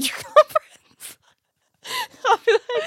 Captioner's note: laughs